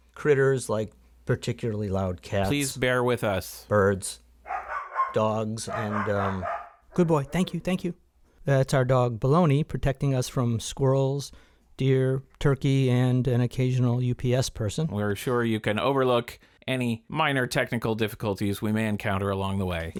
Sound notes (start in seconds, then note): 5.6 dog barks